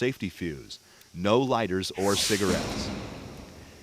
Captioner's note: explosion